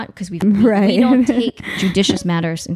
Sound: laughing

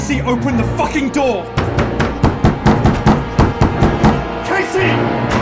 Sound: pounds loudly

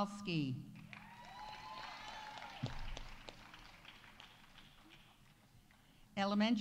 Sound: audience applauding; audience cheering

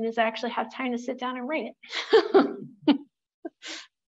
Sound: laughs

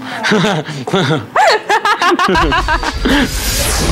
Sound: laughing

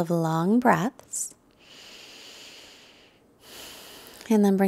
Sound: deep nasal breathing

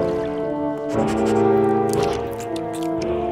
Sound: sniffing

